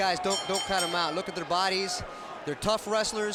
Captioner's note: bell rings